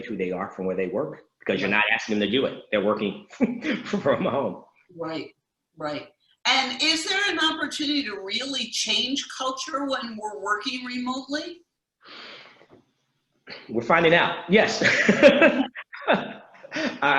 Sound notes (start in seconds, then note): 2.6 laughs; 14.5 laughs